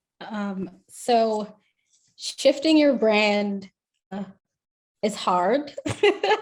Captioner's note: laughs